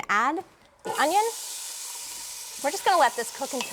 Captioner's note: sizzling